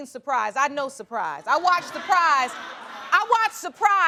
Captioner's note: audience laughing